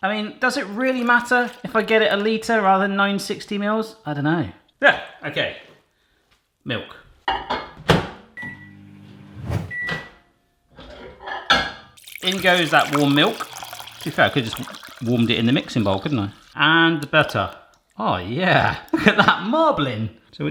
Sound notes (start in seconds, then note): 9.4 air whooshing; 9.7 beeping; 12.0 glass scraping